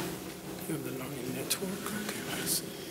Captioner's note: mutters